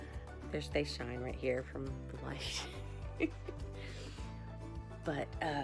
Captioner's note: laughs